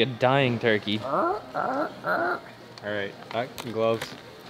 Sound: laughs; mimics turkey call

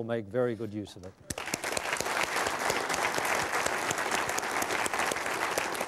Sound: applause

